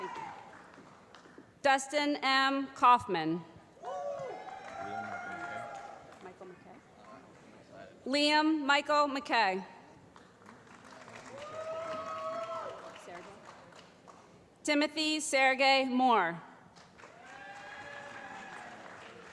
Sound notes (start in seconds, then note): 3.8 cheering; 10.1 applause; 16.7 applause